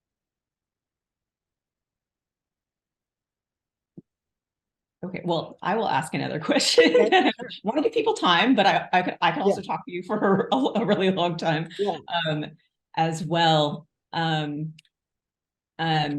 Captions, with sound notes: OK. Well, I will ask another question. [CHUCKLES] Want to give people time, but I could also talk to you for a really long time as well.